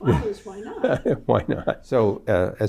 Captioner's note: laughs